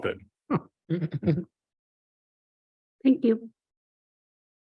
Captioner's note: trustees chuckle